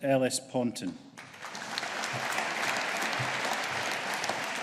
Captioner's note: audience applauding